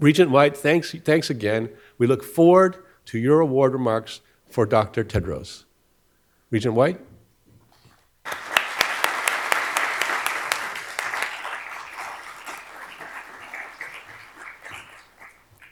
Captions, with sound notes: Regent White, thanks again. We look forward to your award remarks for Dr. Tedros. Regent White. (attendees applauding)